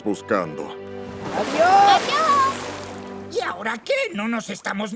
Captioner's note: water splashing